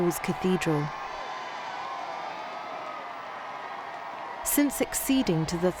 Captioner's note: crowds cheering